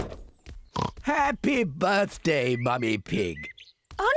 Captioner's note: oinks